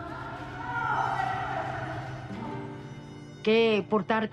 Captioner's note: muffled yelling